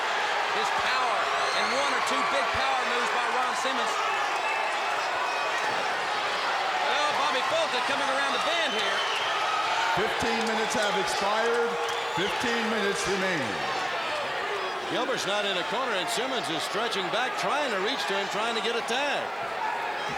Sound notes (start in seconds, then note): 7.7 crowd chatter